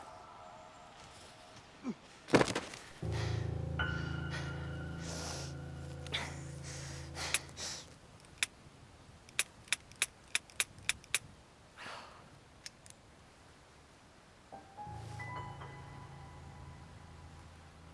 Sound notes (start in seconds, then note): 3.0 ominous music; 7.4 gun clicking